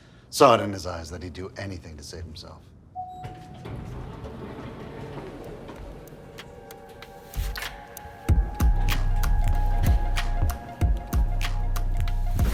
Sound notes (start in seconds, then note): 3.0 elevator bell dings; 3.0 elevator door rumbles; 8.0 upbeat music